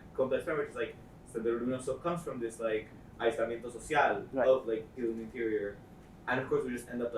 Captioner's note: spanish